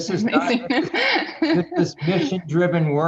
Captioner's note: laughs